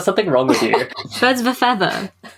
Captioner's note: laughs